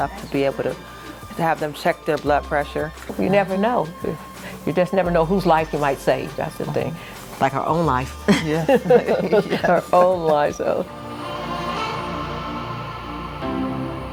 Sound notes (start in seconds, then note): 8.2 laughing; 11.5 slow music